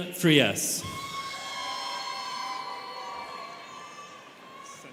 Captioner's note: students cheering